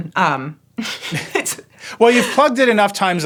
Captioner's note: both chuckling